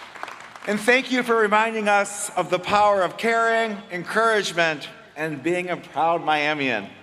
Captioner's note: applause